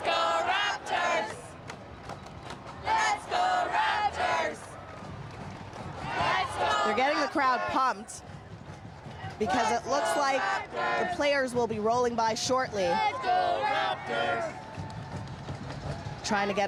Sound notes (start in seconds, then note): 0.5 clapping; 2.4 chanting